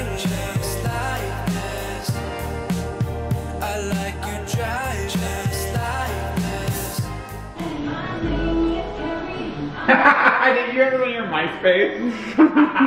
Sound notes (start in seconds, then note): 0.0 slow music; 7.6 pop music; 10.3 laughs